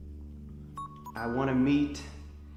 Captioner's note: phone beeping